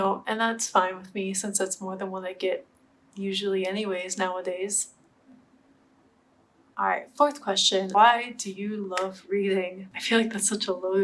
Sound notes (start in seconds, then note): 5.3 awk silence